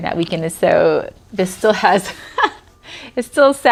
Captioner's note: laughs